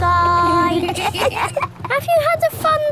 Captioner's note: kids giggling